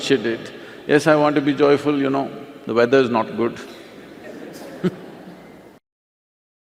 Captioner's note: laughter